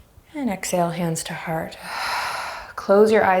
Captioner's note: deep breaths